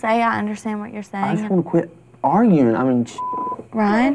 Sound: beep

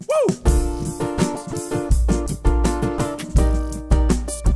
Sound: beatboxing

